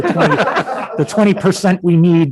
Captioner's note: all laughs